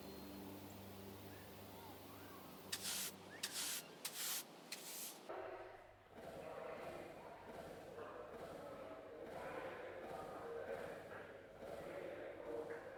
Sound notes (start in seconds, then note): 3.4 broom swishing; 6.1 background people chattering